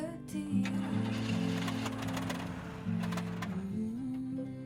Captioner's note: motor sputtering